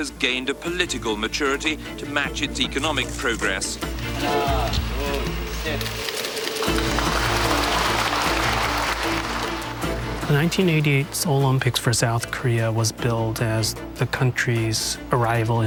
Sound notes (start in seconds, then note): 3.9 counting in Korean; 5.7 audience cheers and applauds